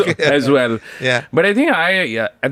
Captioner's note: laughs